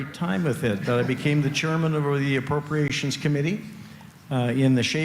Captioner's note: laughter